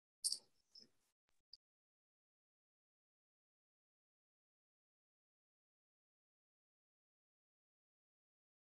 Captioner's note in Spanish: silencio